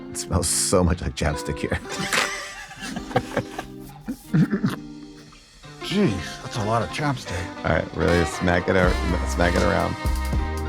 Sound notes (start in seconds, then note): 1.5 all laugh; 5.6 smooth music